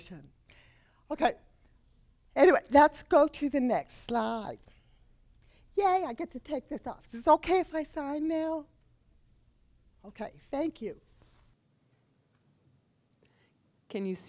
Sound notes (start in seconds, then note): none